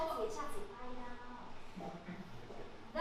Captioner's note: Opal speaks in Hokkien